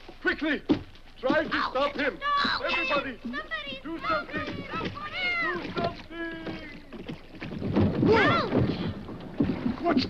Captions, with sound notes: Try to stop him! - I'll catch him! I'll catch him! - Everybody do something! - Help! - Do something! (boat thuds) - Ouch! - What's going on?